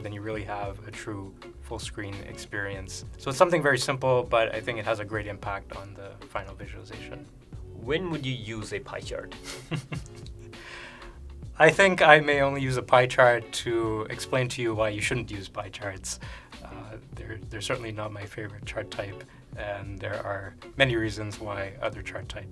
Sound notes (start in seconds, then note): 9.4 laughter